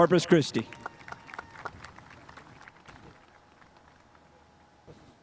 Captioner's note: spectators applauding